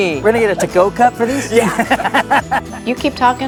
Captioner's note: laughs